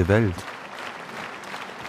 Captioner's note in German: Applaus